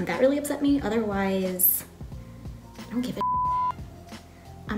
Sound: beep

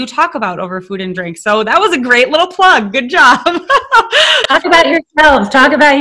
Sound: laughing

